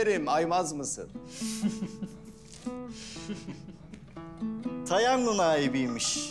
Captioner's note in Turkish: Gülüşmeler